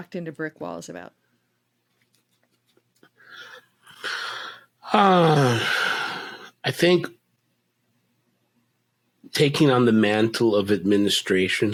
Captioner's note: sigh